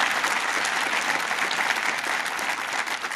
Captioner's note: applause